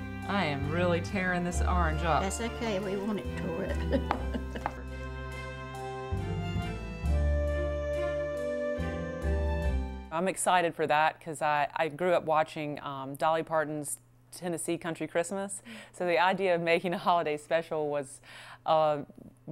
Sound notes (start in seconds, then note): 3.6 laughs; 4.8 bright music